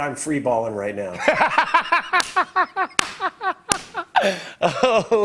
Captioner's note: laughs